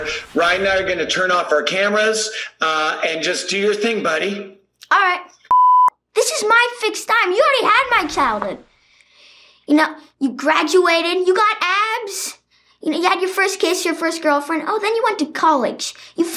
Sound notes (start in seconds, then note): 5.4 beep